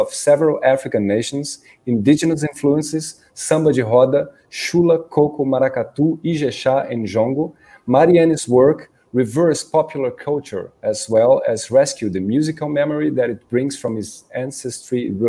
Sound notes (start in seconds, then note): 3.6 speaking in Portuguese